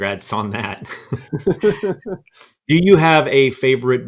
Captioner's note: laughs